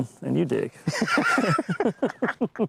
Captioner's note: laughter